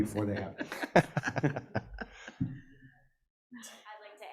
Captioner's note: people laughing